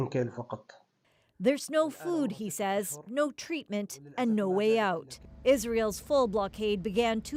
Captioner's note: speaking alternate language